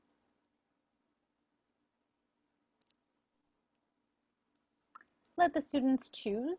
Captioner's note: silence